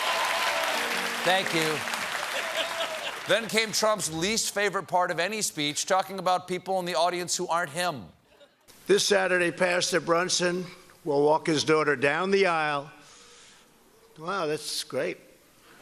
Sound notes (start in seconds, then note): 0.0 applause